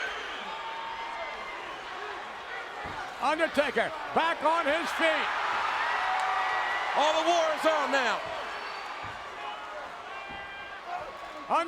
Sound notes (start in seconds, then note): 0.2 crowd chattering; 5.8 crowd cheering